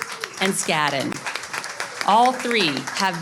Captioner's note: audience claps